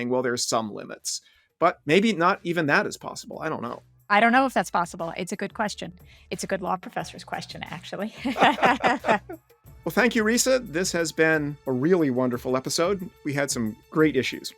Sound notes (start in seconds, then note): 8.1 laughter; 8.2 theme music creeps in